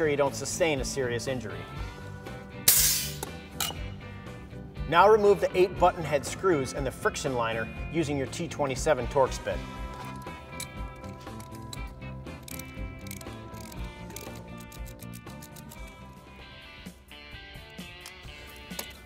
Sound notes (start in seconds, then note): 2.6 air releases; 12.8 rock music; 12.8 wrench rattling